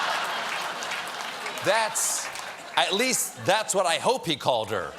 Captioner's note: laughter